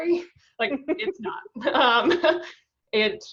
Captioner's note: laughs